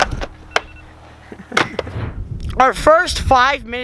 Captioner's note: alarm rings